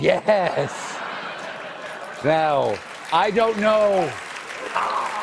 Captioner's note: applause